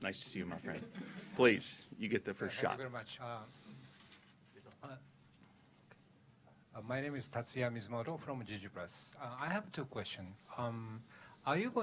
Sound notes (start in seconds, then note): 0.7 laughter